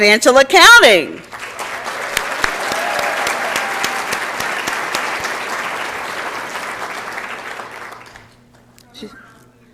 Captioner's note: applause and Cheering